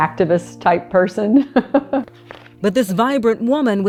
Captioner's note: laughing